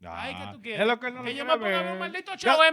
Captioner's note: speaking In Foreign Language